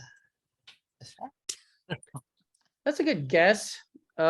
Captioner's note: chuckles